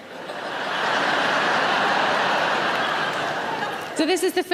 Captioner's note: audience laughing loudly